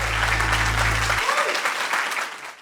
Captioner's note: audience applauding